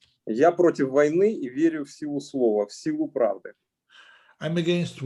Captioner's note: speaking Russian language